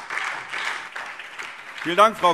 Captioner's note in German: Beifall SPD